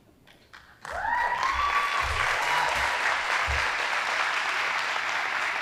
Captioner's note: audience applauding